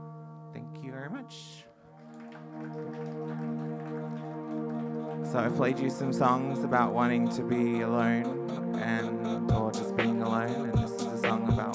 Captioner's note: applause